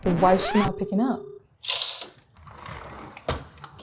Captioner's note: window rustling